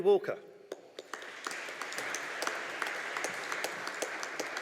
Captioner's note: audience applauding